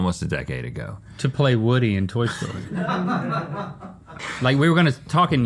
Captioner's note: crew laughing